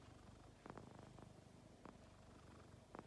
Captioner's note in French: Bruits de tissu et ronronnements